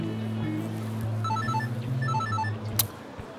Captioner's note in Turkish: Telefon zili sesi